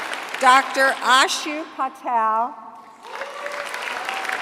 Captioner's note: applause